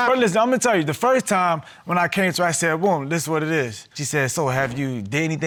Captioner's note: none